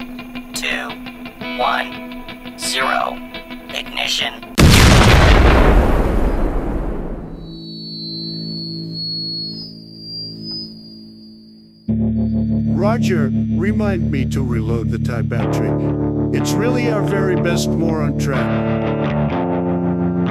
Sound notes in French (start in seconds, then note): 4.5 explosion de missile; 7.1 effet larsen